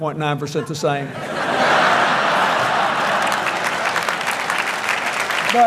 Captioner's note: applause